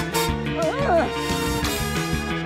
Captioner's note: strains